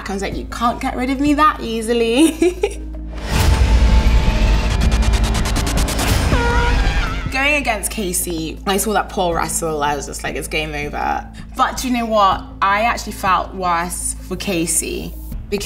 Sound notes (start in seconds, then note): 2.1 laughs; 2.1 dramatic music; 6.4 horn blares